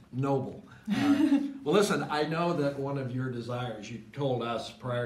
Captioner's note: laughs